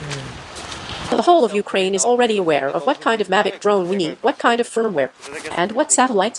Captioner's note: drone